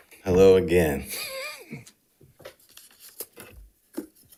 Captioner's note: chuckling